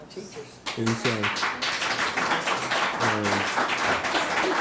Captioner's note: audience claps